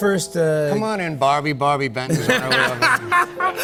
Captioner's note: light laughter